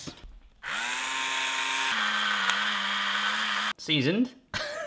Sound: grinder whirring

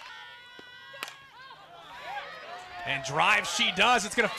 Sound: ball hitting bat

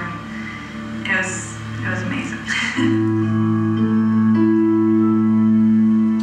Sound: laugh

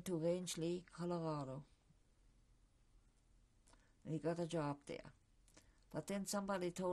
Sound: pauses for 3 seconds

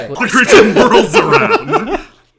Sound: laughter

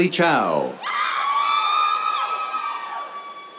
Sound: cheers

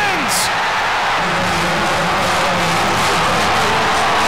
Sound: crowd cheering

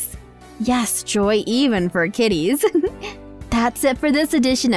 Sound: laughs

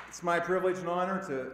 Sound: applause

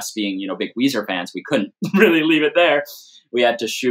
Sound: laughter

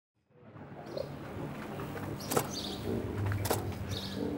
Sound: outdoor sounds

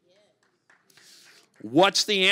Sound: congregation clapping

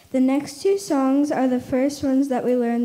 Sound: none

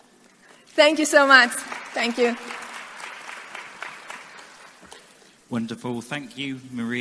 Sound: audience clapping

